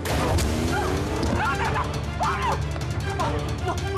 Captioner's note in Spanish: gritos de ella